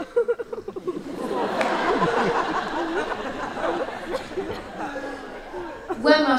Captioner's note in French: rires